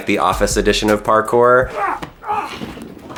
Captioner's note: grunting